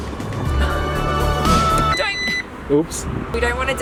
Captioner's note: beep!